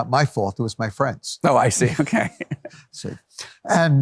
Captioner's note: both laugh